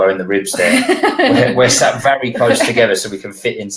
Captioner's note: laughing